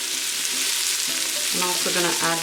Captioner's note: sizzling